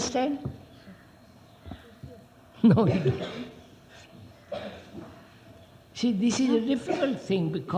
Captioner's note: laughs